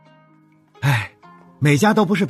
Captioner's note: sigh